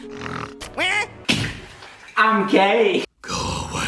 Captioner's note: snarls; shouts